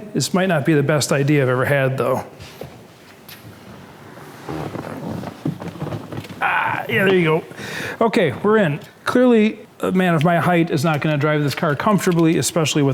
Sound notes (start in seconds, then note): 3.8 seat squeaking